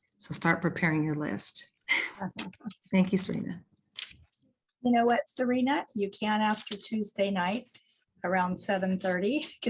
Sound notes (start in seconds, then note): 1.9 laughs